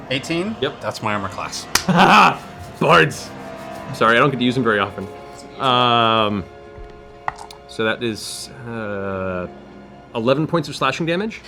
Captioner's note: evil laugh